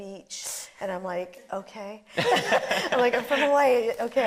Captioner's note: laughing